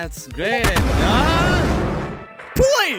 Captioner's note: scream.mp3